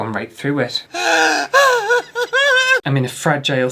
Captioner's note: crying